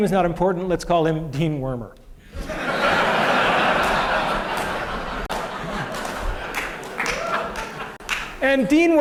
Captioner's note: laughter